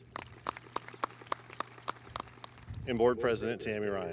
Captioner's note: audience applauding